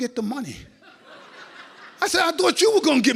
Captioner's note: audience laughs